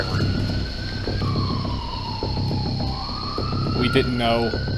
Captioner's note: siren wailing distantly